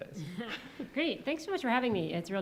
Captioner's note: chuckles